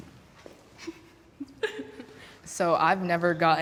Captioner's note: laughter